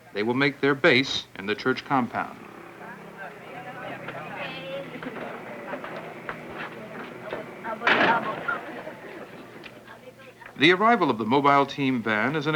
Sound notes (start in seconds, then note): 2.6 filipino speech; 2.6 indiscriminate chatter; 7.7 van door slams